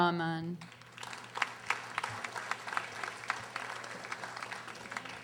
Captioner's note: audience applauding